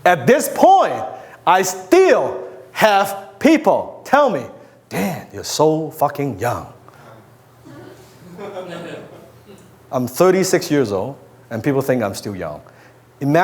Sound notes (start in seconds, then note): 7.6 crowd chuckles